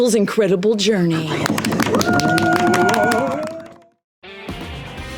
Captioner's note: cheering